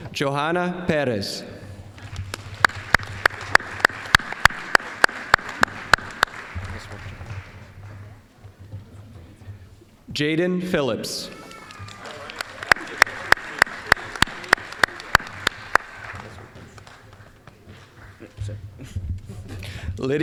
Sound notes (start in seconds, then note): 1.9 applause; 11.4 applause